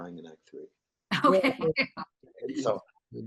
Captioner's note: laughs